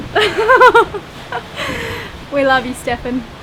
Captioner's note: laughing